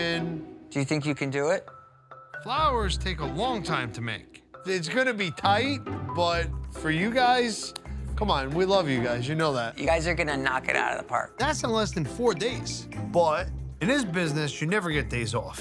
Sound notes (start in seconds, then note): 7.7 hands tap